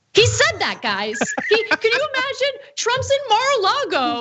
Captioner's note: laugh